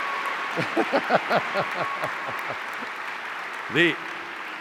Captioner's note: laughs